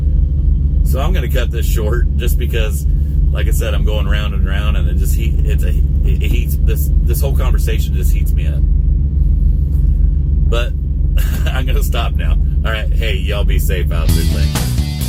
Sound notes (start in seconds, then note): 11.2 laughs; 14.0 energizing rock music